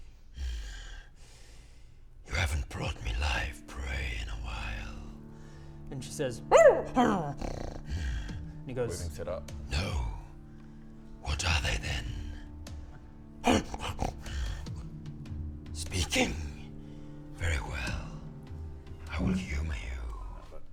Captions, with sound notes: Grrr, you haven't brought me live prey in a while and she says *bark growl grrrrrrrr* - and he goes... - We've been set up No? What are they then? *Growl, snarl* Speaking? Very well, I will humour you